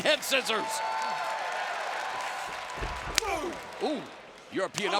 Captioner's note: crowd cheers